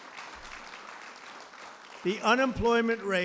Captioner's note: applause